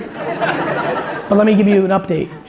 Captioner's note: audience laughing